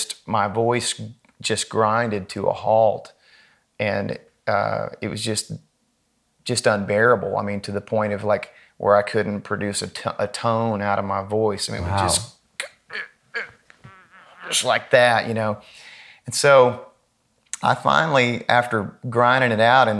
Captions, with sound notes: my voice just grinded to a halt, and it was just unbearable, I mean to the point of I couldn't produce a tone out of my voice. It was just (struggling sounds) like that. So I finally, after grinding it out